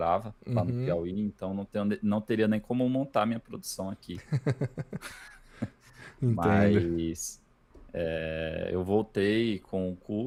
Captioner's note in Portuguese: risadas